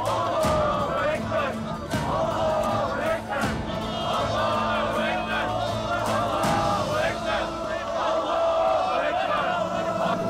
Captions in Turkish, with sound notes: (Hep bir ağızdan) Allahu ekber! (Hep bir ağızdan) Allahu ekber! (Hep bir ağızdan) Allahu ekber! (Hep bir ağızdan) Allahu ekber! (Hep bir ağızdan) Allahu ekber!